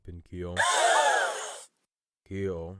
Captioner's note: Audience gasps at Sunny's voice